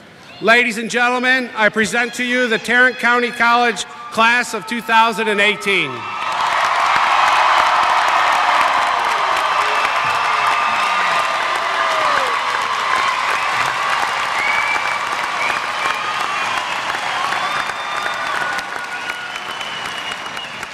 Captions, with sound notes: Ladies and gentleman, I present to you the Tarrant County College Class of 2018. [ Cheering ]